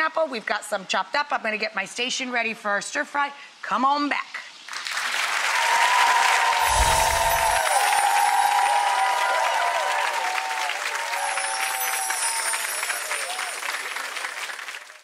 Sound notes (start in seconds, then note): 4.4 audience applauding; 6.6 chimes ringing